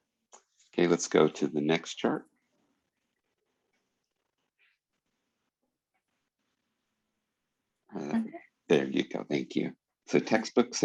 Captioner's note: pause